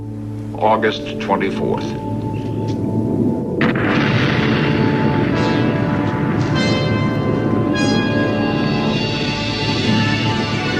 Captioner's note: explosion